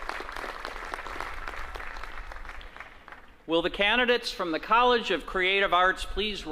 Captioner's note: applause